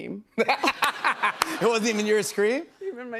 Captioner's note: laughs